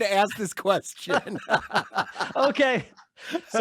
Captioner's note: both laugh